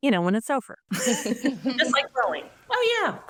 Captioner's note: group laughs